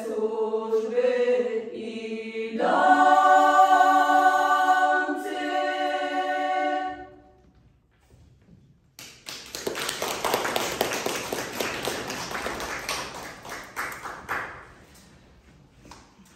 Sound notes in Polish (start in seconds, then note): 9.0 oklaski